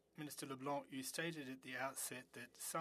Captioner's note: speaking French